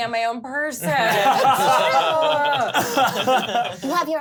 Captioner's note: laughs